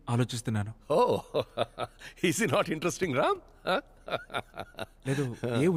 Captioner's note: Laughs